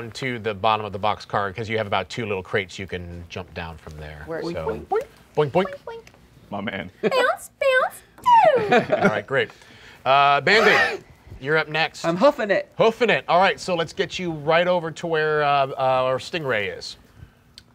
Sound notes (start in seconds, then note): 8.0 descending tone